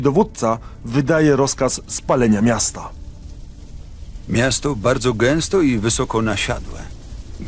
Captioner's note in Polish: Lektor